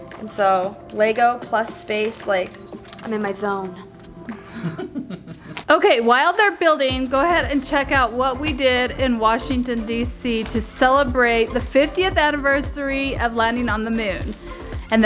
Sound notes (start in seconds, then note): 4.2 laughs